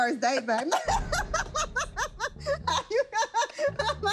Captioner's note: laughter